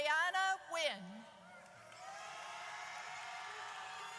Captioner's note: audience cheers